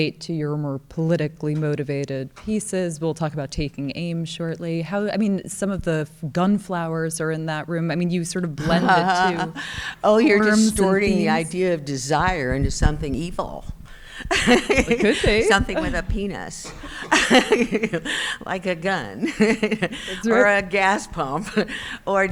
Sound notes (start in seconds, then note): 14.2 laughing; 17.8 laughs